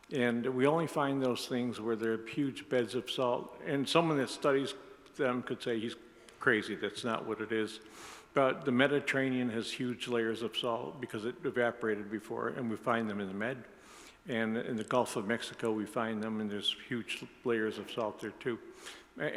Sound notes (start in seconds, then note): none